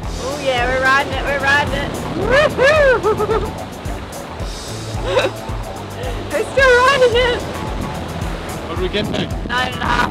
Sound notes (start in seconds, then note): 5.0 laughing